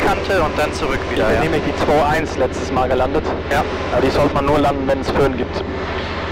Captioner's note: wind